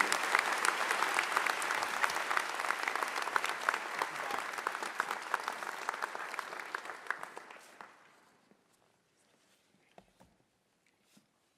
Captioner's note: applause